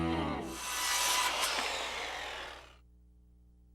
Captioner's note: jigsaw whirrs